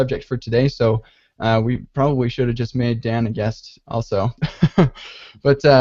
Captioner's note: laughs